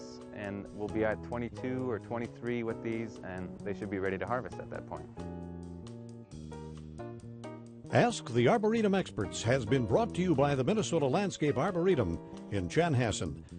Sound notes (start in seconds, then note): 8.0 voiceover